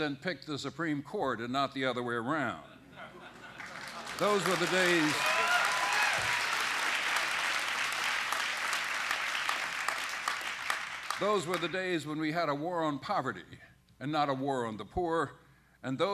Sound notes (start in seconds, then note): 5.2 applause